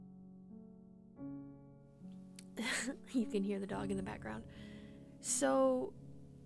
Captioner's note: laughs